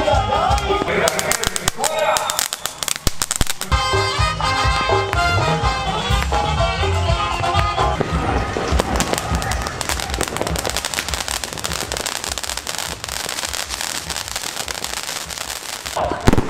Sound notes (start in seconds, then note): 0.6 fireworks Sounds; 3.4 Latin Band Music; 7.9 fireworks Sounds